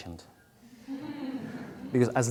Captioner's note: audience laughing